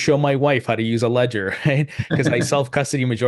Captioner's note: laughs softly; chuckles